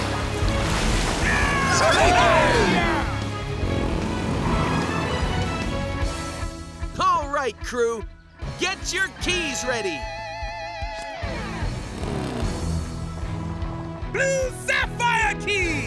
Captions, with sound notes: [cheering] All right crew, get your keys ready. Blue sapphire key!